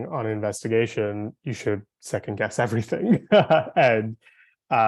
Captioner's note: laughing